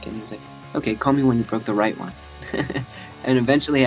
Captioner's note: laughs